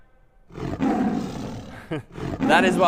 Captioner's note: lion roars